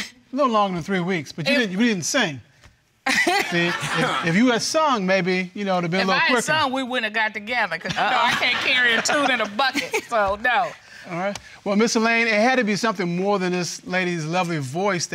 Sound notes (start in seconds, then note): 3.2 audience laughing